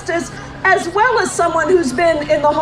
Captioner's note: none